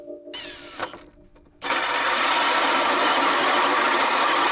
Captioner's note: drilling